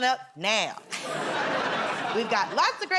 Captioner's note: laughter